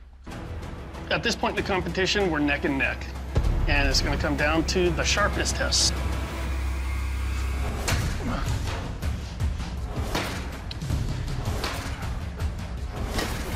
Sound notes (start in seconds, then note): 7.5 thwacking